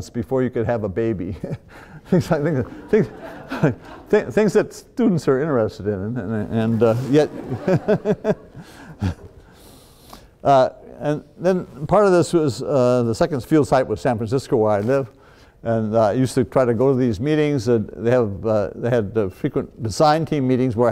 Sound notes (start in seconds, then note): 6.4 laughs